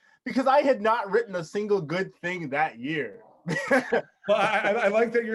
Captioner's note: chuckles